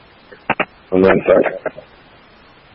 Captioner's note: radio traffic